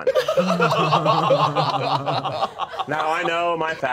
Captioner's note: all laughing